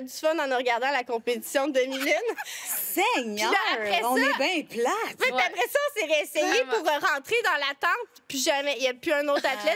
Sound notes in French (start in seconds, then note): 1.9 rires